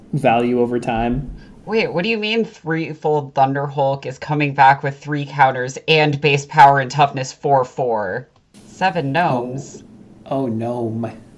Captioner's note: sarcastic